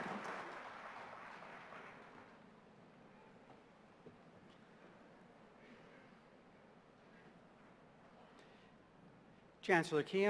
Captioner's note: applause; silence